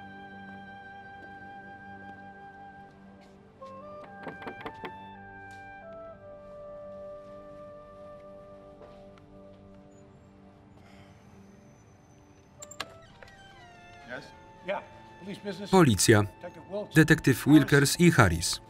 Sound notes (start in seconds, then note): 4.1 knocking